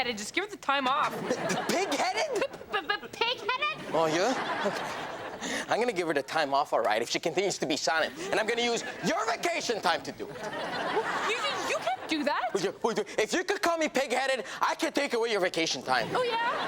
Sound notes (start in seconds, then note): 1.0 audience laughs; 10.2 audience laughs; 13.2 stammers; 16.0 audience laughs